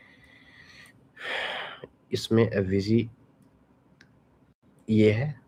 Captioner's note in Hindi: अचानक ज़ोर से सांस लेने की आवाज़